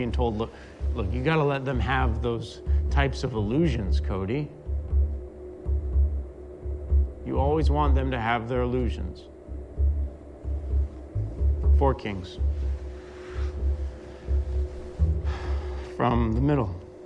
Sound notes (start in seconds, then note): 15.1 sighs